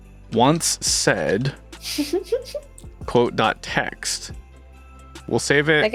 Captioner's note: chuckles